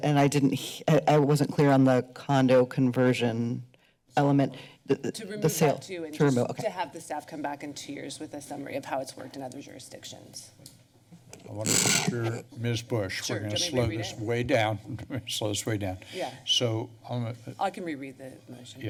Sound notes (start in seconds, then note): 14.7 chuckles